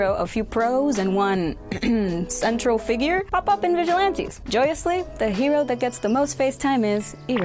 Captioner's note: ahem